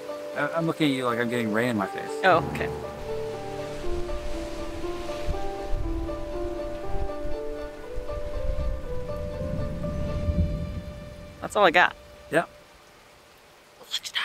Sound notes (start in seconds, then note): 2.2 waves crashing sound; 3.1 background music